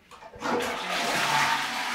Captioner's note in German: Klospülung